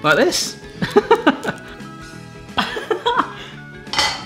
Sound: laughs

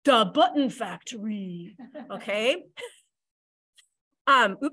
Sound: laughter

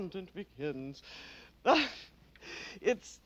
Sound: laughs

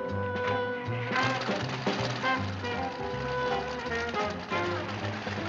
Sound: engine rumbling

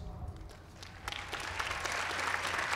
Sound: applause

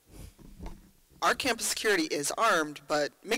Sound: voiceover

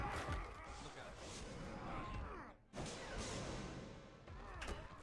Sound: grunting and beeping

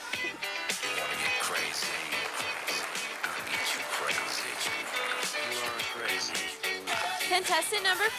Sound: sound of applause from audience

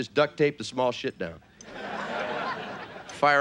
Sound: audience laughing

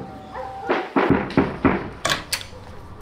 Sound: knocking

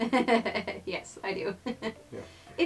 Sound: laughs

